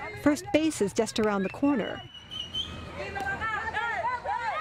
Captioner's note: speaking spanish